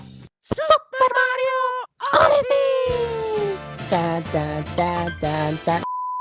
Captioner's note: silly humming